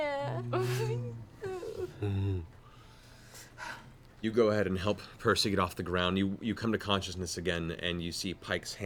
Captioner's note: bear grunt